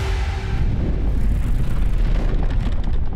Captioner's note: deep creaking